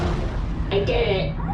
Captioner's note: spaceship noises